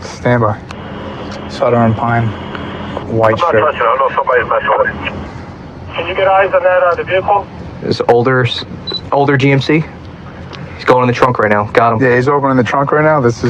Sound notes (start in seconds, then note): 3.9 radioio c chatttterer